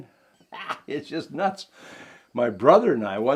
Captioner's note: laughing